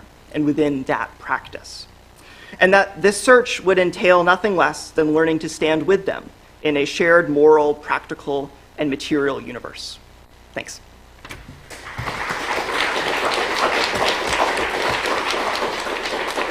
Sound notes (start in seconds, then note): 11.6 applause